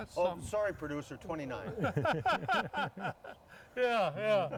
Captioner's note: laughing